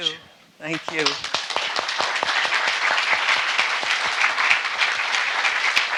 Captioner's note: everyone applauding